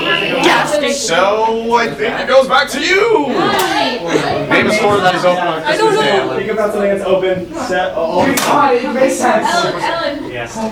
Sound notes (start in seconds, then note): 3.6 talking